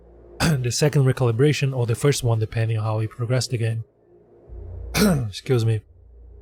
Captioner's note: coughs